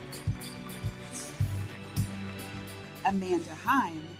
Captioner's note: audience cheering; audience applauding